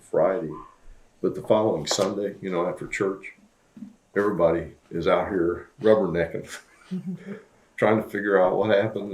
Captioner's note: laughs